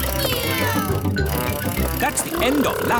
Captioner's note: kids imitating vehicle sounds